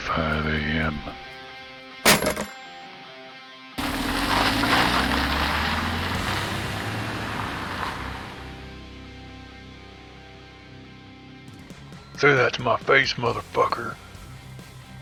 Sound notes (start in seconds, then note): 3.8 bus engine noise